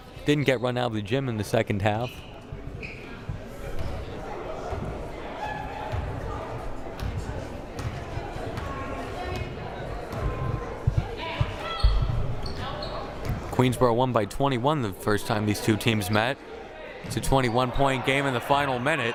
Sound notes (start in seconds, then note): 3.1 crowd murmuring